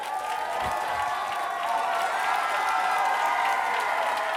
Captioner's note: cheering